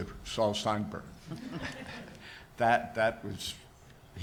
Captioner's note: audience laughs